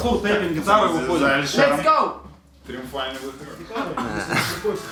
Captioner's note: in English